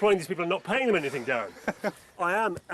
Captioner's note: laughs